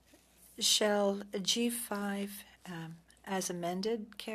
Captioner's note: speaking French